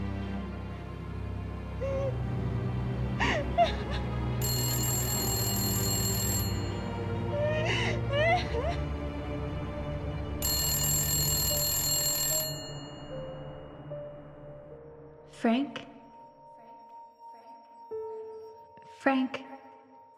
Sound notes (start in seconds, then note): 0.2 Maggie crying; 4.4 telephone ringing